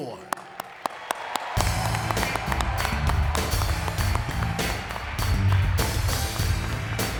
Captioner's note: audience cheering; upbeat music